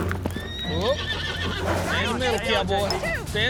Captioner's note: horse whinnies